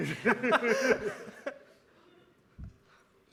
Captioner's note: laughing